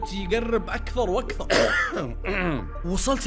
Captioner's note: cough in the dark